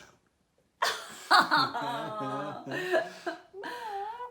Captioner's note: laughter